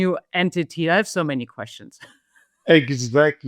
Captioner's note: laughs